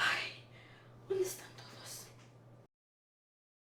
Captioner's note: Spanish